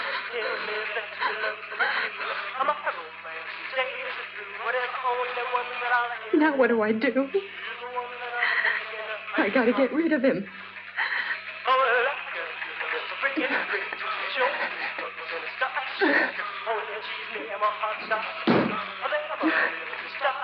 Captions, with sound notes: [ LOUISE GASPS ] [ ALMOST CRYING ] Now what do I do? I got to get rid of him. [ GASPING ] [ MUSIC ON THE RADIO CONTINUES ] [ SOUNDS OF EFFORT ]